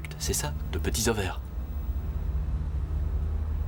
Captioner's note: helicopter whirring